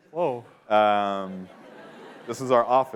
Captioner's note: laughter